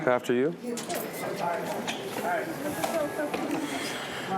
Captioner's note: crowd chattering